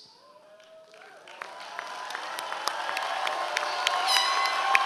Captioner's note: audience applause